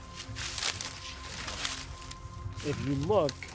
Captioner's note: feet crunching